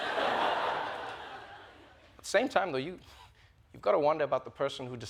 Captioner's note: laughter